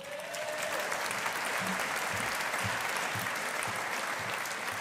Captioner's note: audience applauding